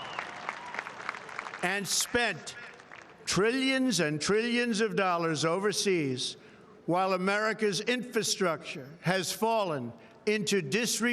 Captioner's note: cheering